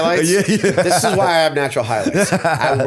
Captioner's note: laughter